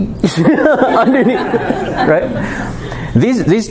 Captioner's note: laughter